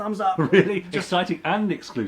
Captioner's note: laughs